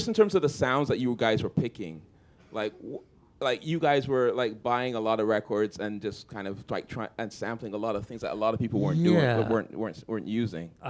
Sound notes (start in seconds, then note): none